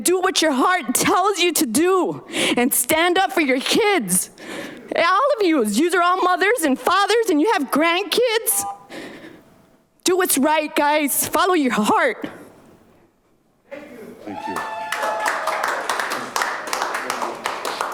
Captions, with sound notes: and do what your heart tells you to do. And stand up for your kids. All of you, you are all mothers and fathers and you have grandkids, do what's right guys follow your heart. (audience applauds)